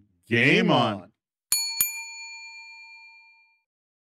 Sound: bell dings

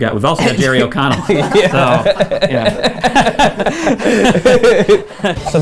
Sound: laughter

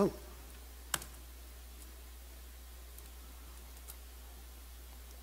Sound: computer clicking

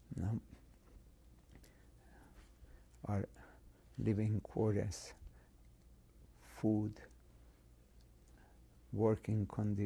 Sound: pauses for 3 seconds

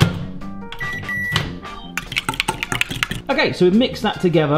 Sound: beeping

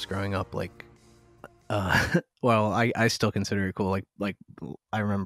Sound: laughter

